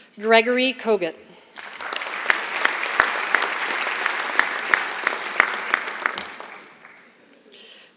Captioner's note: applause